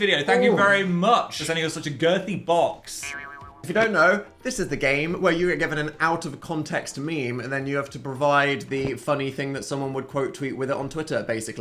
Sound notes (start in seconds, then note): 3.0 spring reverberating